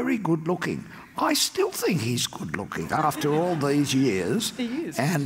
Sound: audience laughs

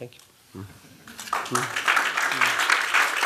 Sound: applause

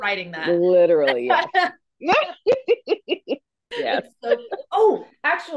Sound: laughs

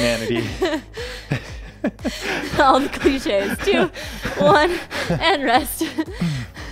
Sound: chuckles

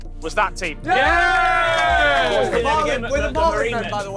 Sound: cheers and claps

